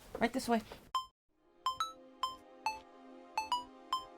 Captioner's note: phone rings